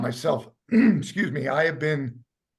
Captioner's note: clears throat